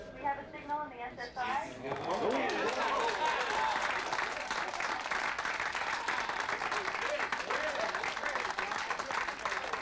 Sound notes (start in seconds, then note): 2.0 people cheering